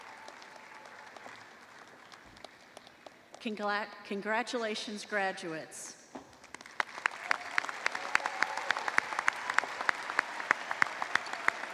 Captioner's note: applause